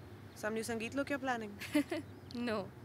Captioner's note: Chuckles